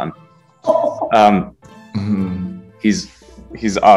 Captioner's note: laughing